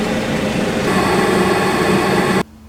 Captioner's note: fan heater noise